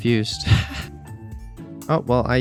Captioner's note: laughs